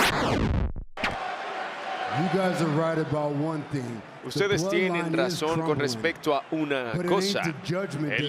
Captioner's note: applause